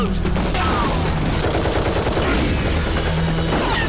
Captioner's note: Rapid gunfire